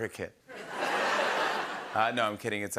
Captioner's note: laughter